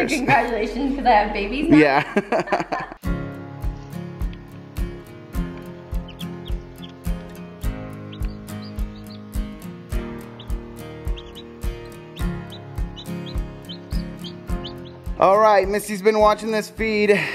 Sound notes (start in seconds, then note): 1.9 laughs; 2.9 soft music